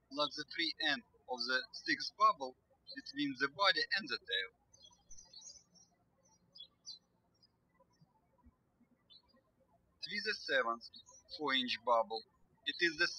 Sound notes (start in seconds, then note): 5.7 birds chirping